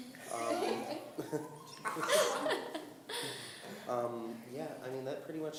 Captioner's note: laughing